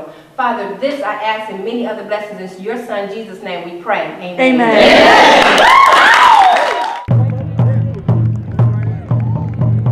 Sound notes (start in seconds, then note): 4.6 cheering; 7.0 drums playing